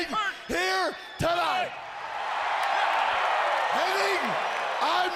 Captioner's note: crowd cheering